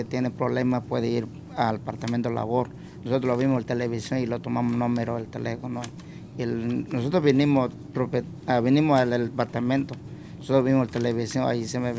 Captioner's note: speaking spanish